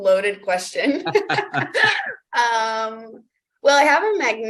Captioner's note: laughs; both laughing